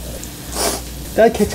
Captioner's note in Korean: 훌쩍